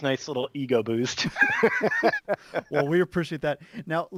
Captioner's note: chuckles